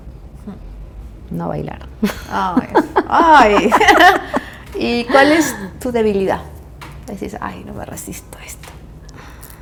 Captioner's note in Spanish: risas